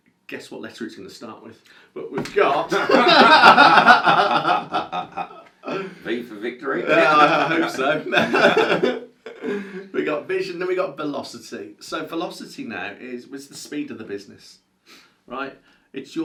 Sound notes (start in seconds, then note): 2.3 laughs